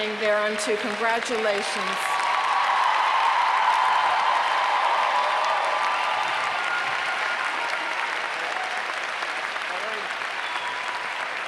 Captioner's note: applause